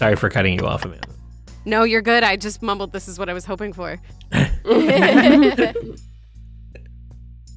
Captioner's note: EVERYONE laughs